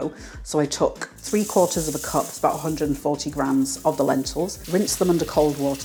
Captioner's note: tumbly rustling; running water